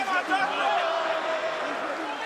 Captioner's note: crowd cheering